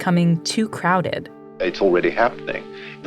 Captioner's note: soundbite of archived recording